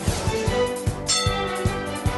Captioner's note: bell dings